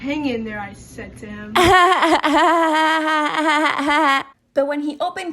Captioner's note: laugh